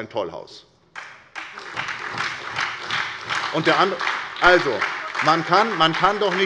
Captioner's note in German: Beifall bei der SPD